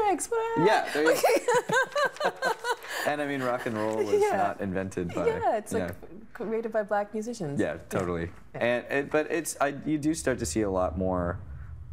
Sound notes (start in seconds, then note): 1.0 laughing